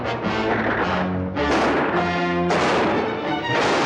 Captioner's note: gunshots